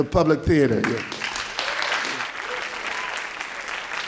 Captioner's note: applause